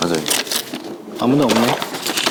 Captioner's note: fumbling